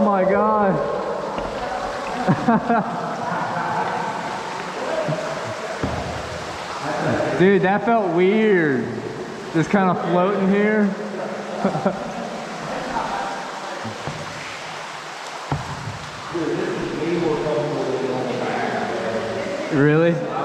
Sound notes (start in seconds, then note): 2.1 laughter